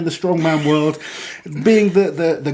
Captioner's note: laughs